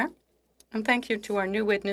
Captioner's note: speaking French